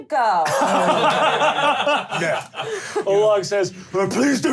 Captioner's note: laughing